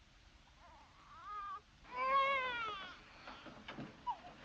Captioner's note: baby cries